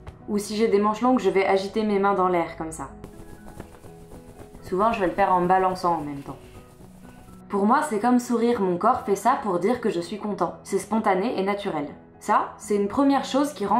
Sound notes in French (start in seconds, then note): 3.0 bruit des manches; 6.3 toujours bruit des manches